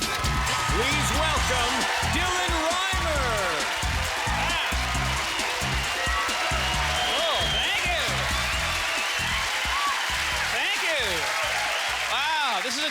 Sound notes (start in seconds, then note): 3.7 cheers and applause